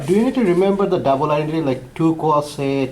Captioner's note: voiceover